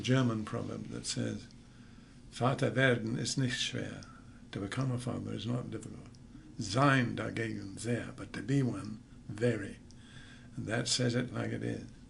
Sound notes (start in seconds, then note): 1.9 saying in German